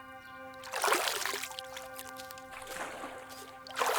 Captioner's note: water splashing